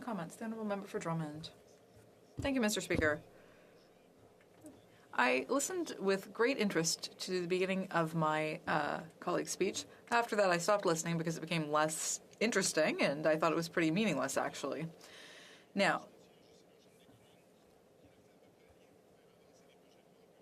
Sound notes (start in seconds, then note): 8.7 speaking French